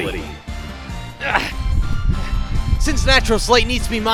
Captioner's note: grunts